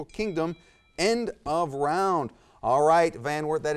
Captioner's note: buzzer